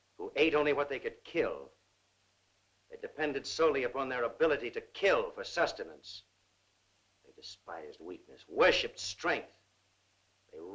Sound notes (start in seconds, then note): none